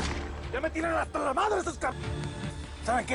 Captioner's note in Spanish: Disparos